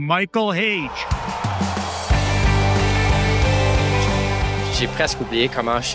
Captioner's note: cheering